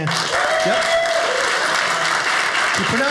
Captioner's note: audience cheering